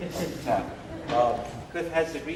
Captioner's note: laughter